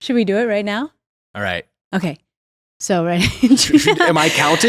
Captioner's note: laughs